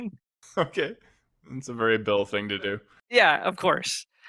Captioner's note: laughs